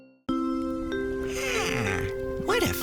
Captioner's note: yawn